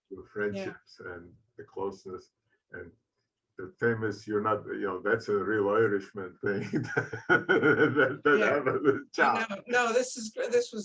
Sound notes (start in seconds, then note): 9.1 laughing